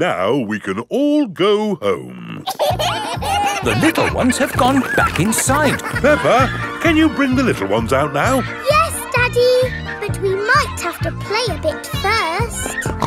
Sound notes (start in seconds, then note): 2.9 kids giggling